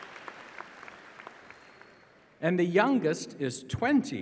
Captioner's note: applause